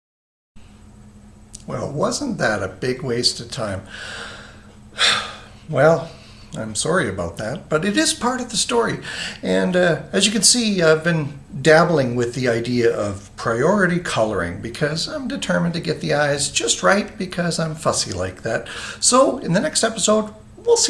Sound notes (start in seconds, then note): 4.9 sighs